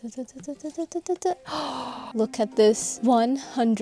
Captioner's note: gasp